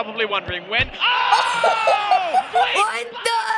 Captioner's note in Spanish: Ambos comentaristas deportivos gemido; risa